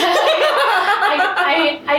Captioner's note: laughing loudly